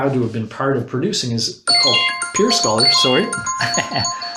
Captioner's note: alarm ringing; laughs